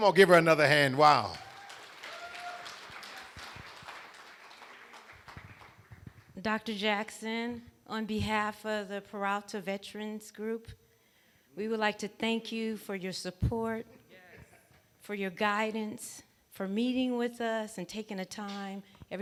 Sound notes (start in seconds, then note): 1.2 cheering